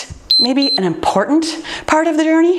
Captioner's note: timer beeps